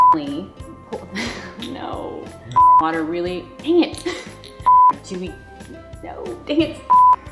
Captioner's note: chuckle